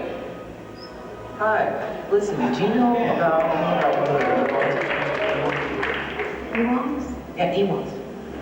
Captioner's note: cheers